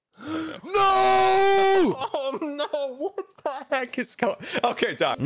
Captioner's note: gasps